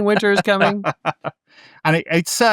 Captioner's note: laughing